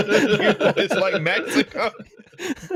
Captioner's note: laughing; laughter